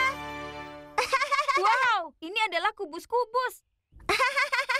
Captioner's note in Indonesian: terkekeh